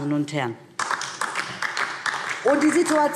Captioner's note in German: Beifall DIE LINKE